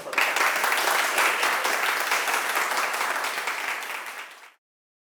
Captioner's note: applause